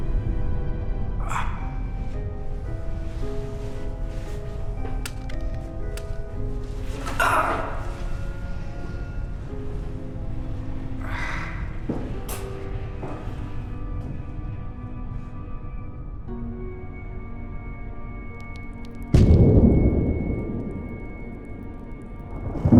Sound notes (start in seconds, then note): 0.3 dramatic music; 1.2 grunting; 4.8 dramatic music; 19.1 thunder crashing